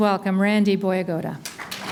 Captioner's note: applause